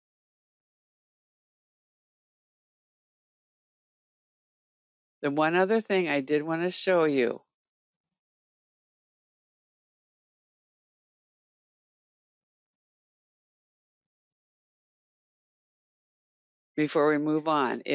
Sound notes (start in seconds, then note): 8.8 8 seconds pause